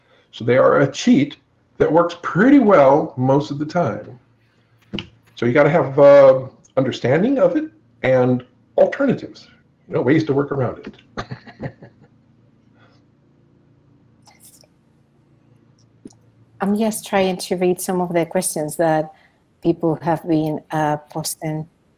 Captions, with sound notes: So they are a cheat that works pretty well most of the time. So you gotta have a understanding of it and alternatives. No ways to work around it. (laughs) - I'm just trying to read some of the questions that people have been posting.